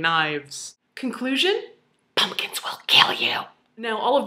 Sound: whispers

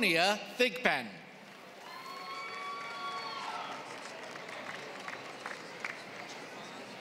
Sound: applause

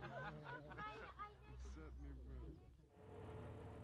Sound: laughing; speaking softly; voiceover

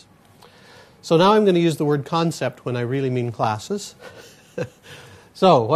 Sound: laughs

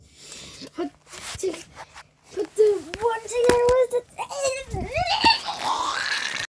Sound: demon noises

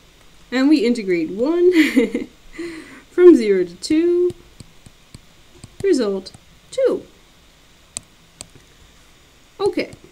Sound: laughs

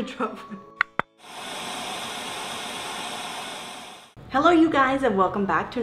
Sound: static buzzing

